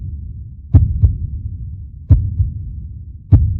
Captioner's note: none